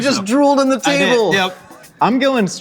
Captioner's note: laughing